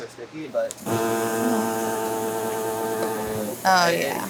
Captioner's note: machine whirring